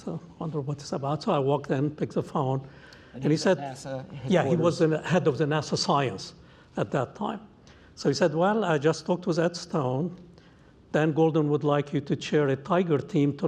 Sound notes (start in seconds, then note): none